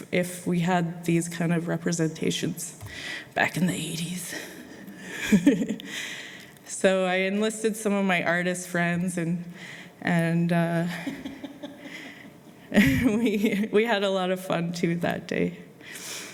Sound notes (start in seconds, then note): 5.5 laughs; 11.0 laughter